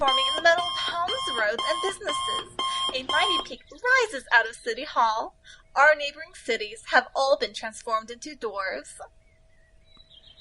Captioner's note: distortion clears. Alarm clock blaring as the radio plays